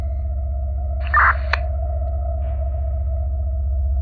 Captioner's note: police radio clicks